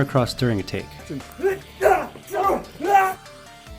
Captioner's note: shouting